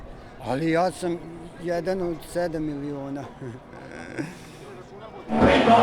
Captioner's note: laughs